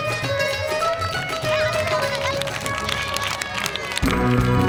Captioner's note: applause